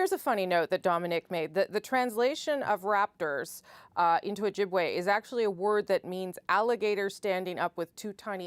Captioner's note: speaking ojibway